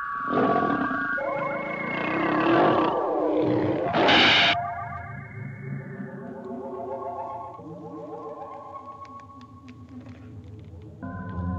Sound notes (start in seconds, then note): 0.2 growling continues; 3.9 roar⸻; 3.9 blaster sears